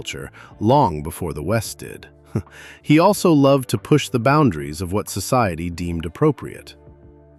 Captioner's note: chuckles